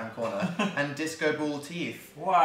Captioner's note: laughs